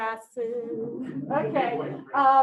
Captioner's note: chuckles